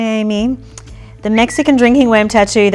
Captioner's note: lips whistle